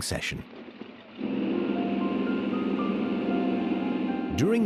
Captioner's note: engine rumbling